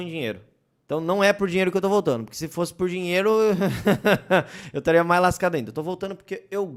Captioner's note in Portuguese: risos de nervoso